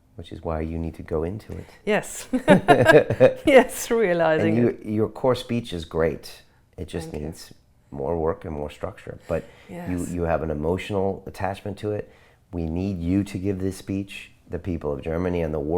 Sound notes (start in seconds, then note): 2.3 both laugh